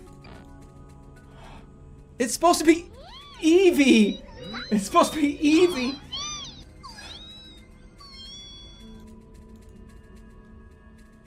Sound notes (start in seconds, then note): 5.2 Eevee sounds in the background